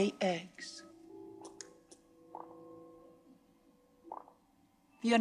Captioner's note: eggs bouncing